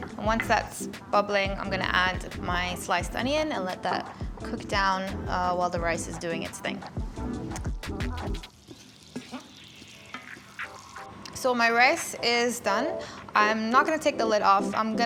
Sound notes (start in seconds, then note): 0.0 soft music; 7.0 soft music; 8.3 pan sizzles